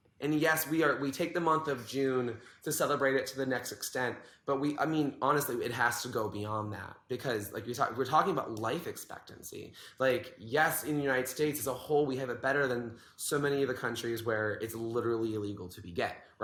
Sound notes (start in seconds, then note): none